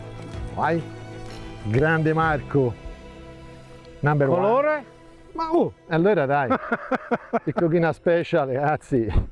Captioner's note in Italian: risate